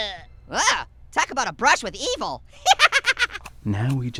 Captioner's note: laughing